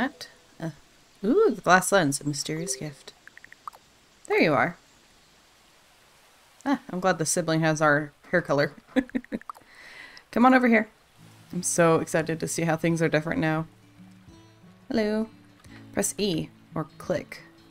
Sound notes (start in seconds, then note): 8.8 laughs